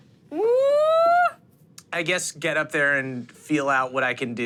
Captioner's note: none